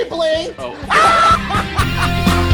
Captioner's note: cackling laughter